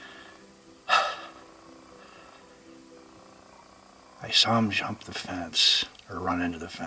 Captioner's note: exhales deeply